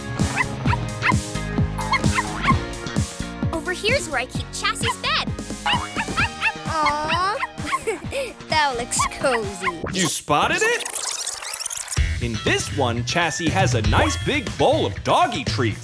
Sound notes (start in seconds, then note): 5.6 barking; 5.7 chuckling